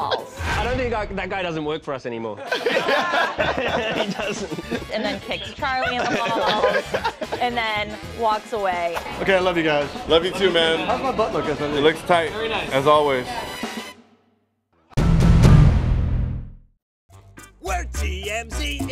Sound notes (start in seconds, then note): 2.4 laughter